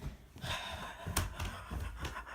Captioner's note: sigh